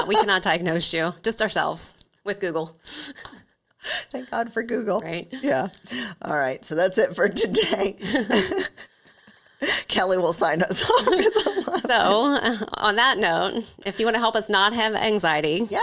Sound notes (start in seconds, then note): 7.4 laughing